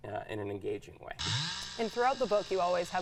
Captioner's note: chainsaw buzzing